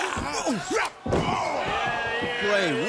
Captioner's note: crowd chatter